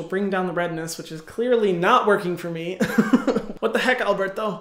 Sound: chuckling

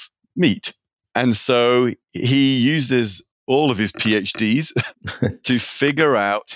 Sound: laughing

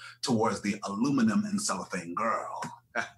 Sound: laughs

